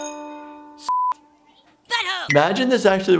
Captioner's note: bell rings; beep